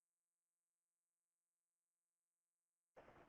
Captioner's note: silence continues